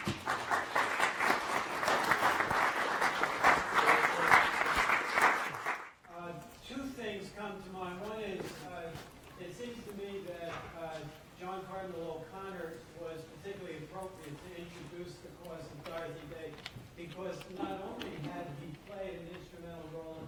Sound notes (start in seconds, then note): 0.0 applause; 7.0 voiceover